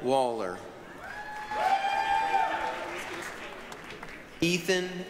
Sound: applause, cheering

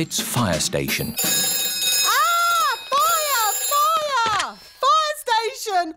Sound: rings

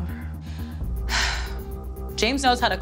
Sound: sighs

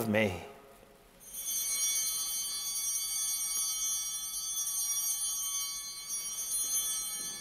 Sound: altar bells ringing

